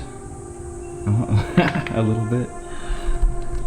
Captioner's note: laughs